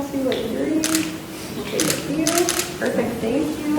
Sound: camera clicking

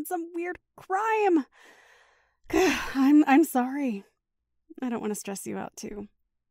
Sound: deep breath

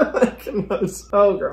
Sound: laughs

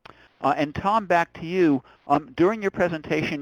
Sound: voiceover

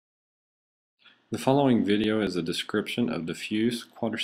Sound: voiceover

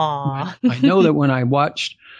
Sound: laughs

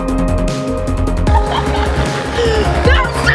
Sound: laughter

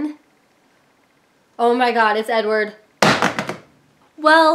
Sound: drop phone on gound with a loud thud

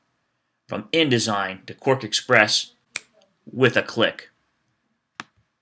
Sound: snaps fingers

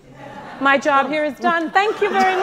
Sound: audience laughing

